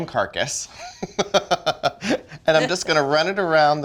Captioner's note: giggling